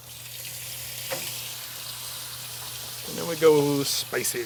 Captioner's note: ribs sizzling